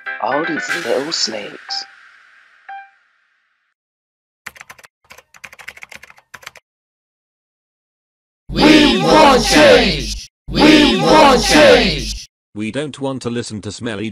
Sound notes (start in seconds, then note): 10.5 crowd